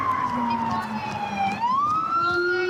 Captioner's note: sirens